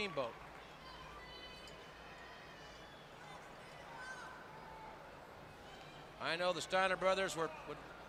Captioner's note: crowd chatter